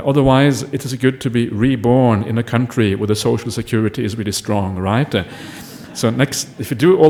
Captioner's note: laughter